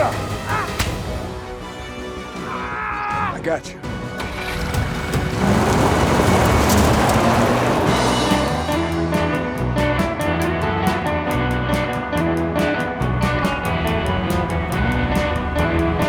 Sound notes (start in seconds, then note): 0.4 Chef grunts; 2.4 Tector yells; 5.7 tires skidding; 8.7 energetic music